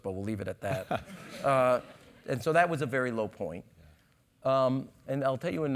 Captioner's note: laugh